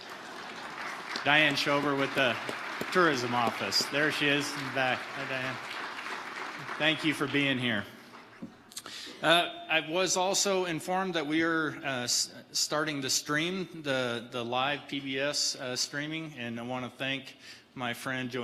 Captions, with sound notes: (audience applauding) Diane Shober with the tourism office. There she is in the back at the far end. Thank you for being here. I was also informed that we are starting to stream the live PBS streaming. And I wanna thank my friend,